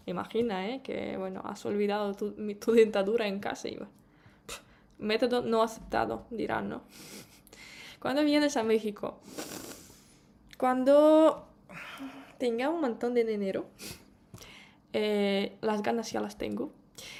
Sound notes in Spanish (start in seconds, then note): 9.3 resoplido